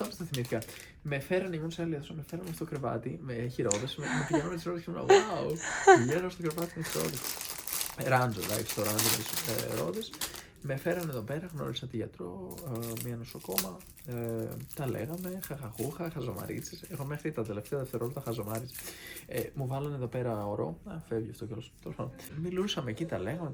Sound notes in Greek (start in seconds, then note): 3.7 γέλια